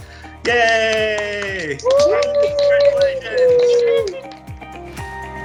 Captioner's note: cheering